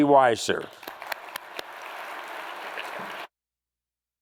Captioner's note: crowd applauds